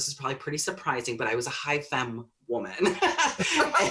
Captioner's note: both laugh